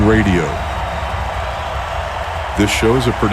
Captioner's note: crowd cheering